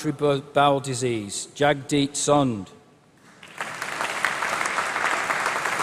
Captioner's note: applause